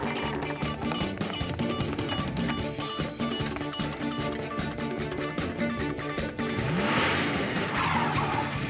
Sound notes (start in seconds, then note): 6.3 engine revving